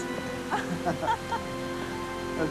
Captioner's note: Darcy laughing